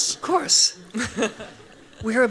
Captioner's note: laughs